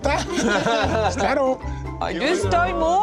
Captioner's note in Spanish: risas